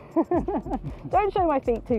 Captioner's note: laughs